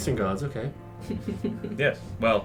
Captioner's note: chuckles